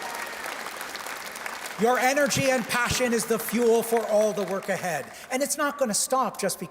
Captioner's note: cheers and Applause